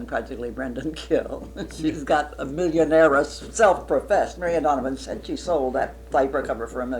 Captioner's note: laughs